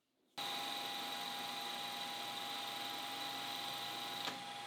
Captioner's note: machine humming